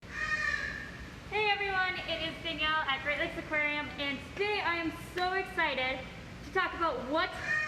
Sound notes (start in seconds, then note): 0.1 bird in background squawks